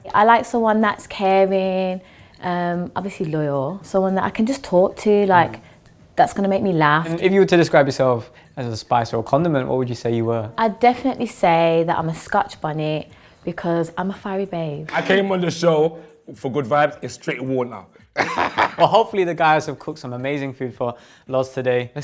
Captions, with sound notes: - I like someone that's caring, obviously loyal. Someone that I can just talk to, that's gonna make me laugh. - And if you were to describe yourself as a spice or a condiment, what would you say you were? - I'd definitely say that I'm a Scotch bonnet because I'm a fiery babe. - I came on the show for good vibes. It's straight war now. (group laughs) - Well hopefully the guys have cooked some amazing food for Loz today.